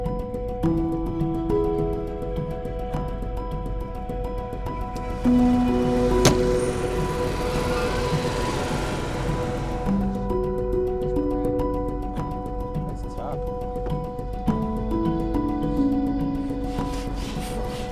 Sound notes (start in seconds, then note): 6.5 door shutting